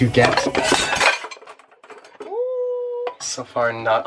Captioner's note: pans clang